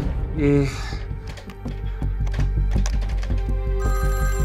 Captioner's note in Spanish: Sonido al marcar; Suena el teléfono